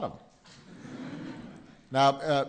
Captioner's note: laughter